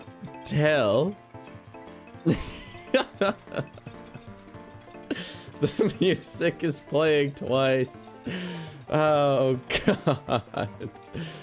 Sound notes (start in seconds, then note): 2.2 giggle